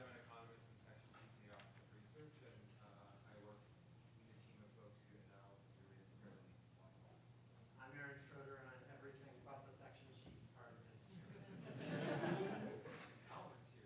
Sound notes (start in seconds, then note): 6.2 speaking faintly; 11.3 audience laughing